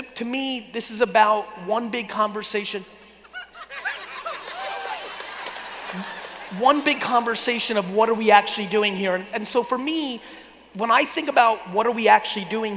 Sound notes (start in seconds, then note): 3.3 laughing and cheering